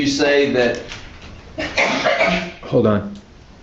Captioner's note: juror coughing